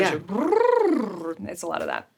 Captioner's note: Sarah trilling tongue